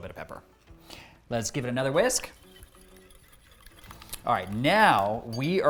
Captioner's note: whisk whooshing